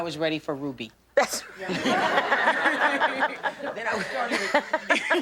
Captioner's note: laughter